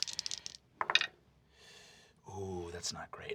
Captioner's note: rolls dice